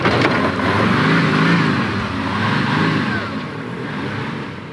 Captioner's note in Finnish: moottorin surinaa